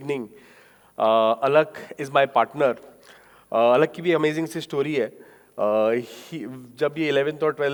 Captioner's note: speaking in foreign language